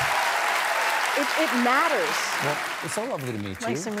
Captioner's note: cheers and applause